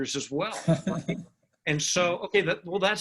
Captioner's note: laughter